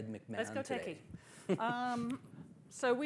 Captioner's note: laughs